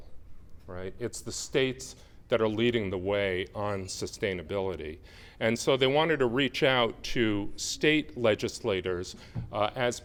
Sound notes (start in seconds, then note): none